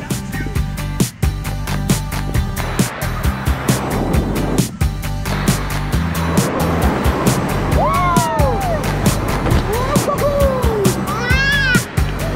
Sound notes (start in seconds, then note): 0.1 upbeat music; 3.3 water splashing